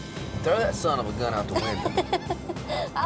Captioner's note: laughs